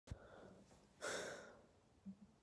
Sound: nervous exhale

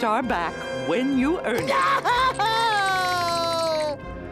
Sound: crying

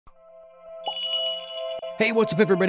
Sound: magical jingle

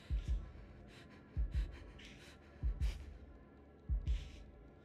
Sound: heavy breathing

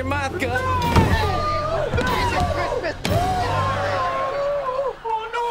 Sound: groaning

